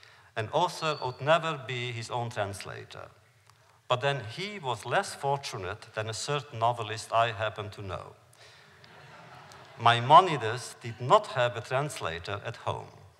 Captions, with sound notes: And also, would never be his own translator, but then he was less fortunate than a certain novelist I happen to know. (laughter) Maimonides did not have a translator at home.